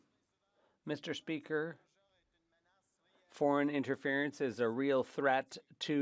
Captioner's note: speaking French